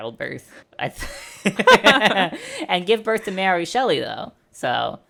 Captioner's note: laughter